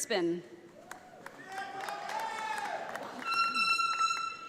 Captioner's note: audience applauding